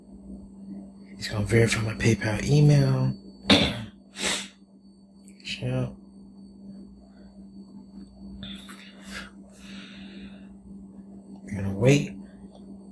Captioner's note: coughs